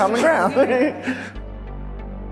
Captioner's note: laughing; intense music